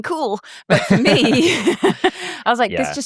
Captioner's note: both laugh